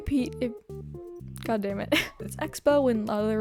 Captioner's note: giggle